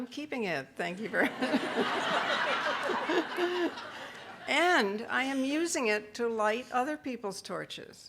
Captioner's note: audience laughing